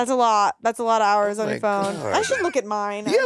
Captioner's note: laughing